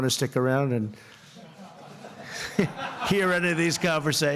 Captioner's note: laughter